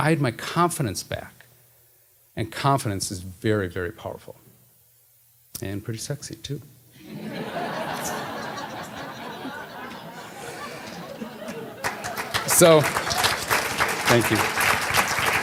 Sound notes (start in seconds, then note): 10.1 laughter, applause